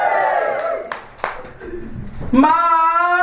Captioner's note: audience cheers